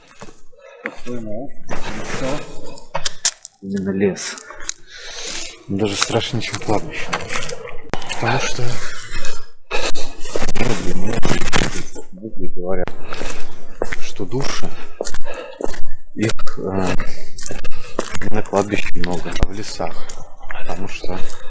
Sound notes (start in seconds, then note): 9.7 strange interference